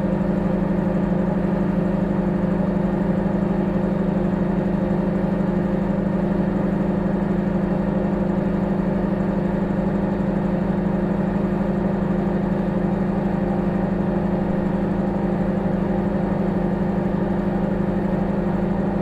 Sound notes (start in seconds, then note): 7.0 microwave humming